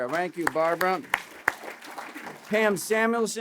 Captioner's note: applause